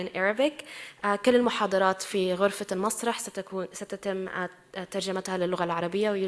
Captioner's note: speaking in foreign language